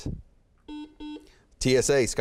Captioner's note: beeping